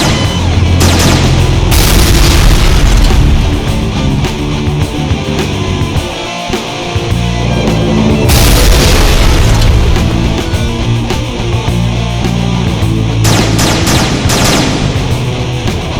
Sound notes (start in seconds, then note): 1.5 explosion booms; 7.0 explosion booms; 13.2 gun blasting